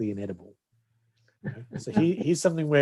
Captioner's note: chuckles